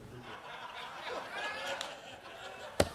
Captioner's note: laughter